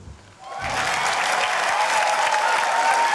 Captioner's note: cheering, applause